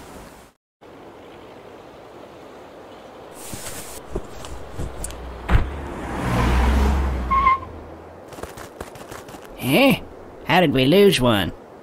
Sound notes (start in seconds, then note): 2.1 truck in the distance noise; 5.4 tire screech